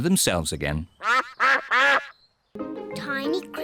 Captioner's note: duck quacks